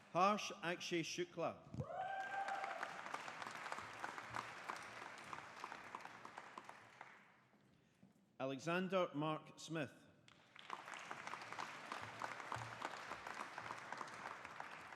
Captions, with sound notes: Harsh Akshay Shukla. (AUDIENCE APPLAUDING) Alexander Mark Smith. (AUDIENCE APPLAUDING)